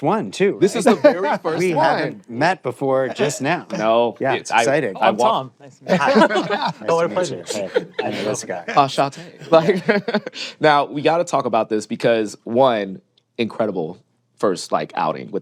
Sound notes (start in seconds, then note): 9.3 chuckles